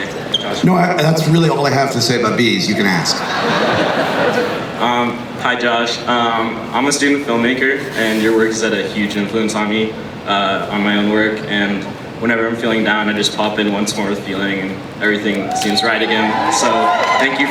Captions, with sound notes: No, that's really all I have to say about bees, you can ask. - [Voiceover] Hi, Joss, I'm a student filmmaker. Your work has had a huge influence on me, on my own work, and whenever I'm feeling down I just pop in Once More With Feeling and everything seems right again. (crowd cheers)